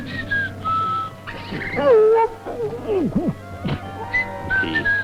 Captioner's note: whistling; gargling